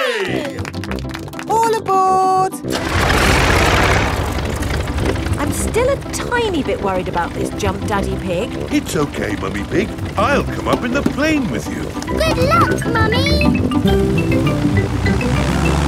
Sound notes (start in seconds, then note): 3.2 plane engine starts